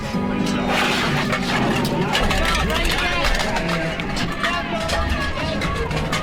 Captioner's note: bells clanking over cheers